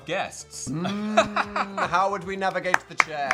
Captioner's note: Dan hums and Phil laughs